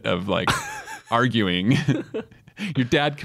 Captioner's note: both laughing